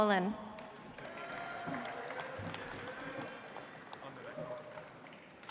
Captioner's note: audience applauds